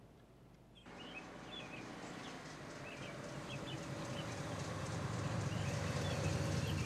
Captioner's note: birds chirping; engine rumbling